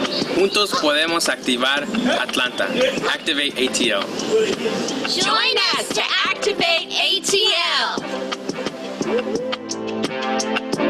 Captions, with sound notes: (speaks in foreign language) Activate ATL. - Join us to Activate ATL. (gentle music)